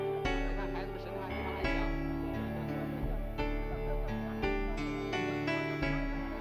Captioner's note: rescuers chattering in Chinese